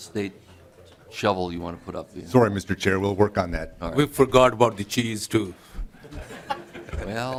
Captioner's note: laughing